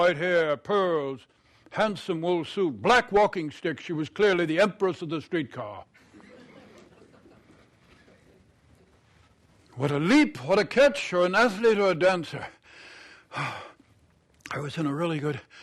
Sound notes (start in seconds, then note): 12.7 exhales sharply